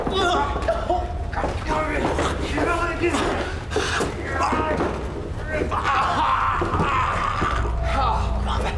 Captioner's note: BL screaming in agony